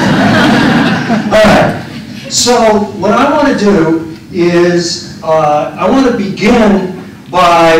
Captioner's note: laughter